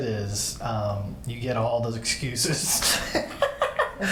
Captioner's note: both laughing